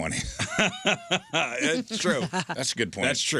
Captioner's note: laughing